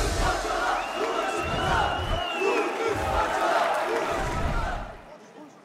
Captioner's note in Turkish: Tezahürat